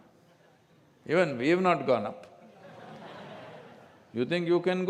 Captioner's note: laughter